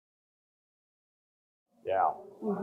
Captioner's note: audience groaning